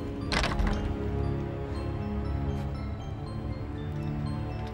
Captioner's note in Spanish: traqueteo de la puerta de la celda